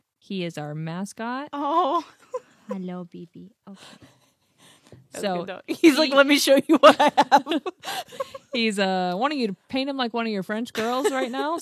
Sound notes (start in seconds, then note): 5.7 laughs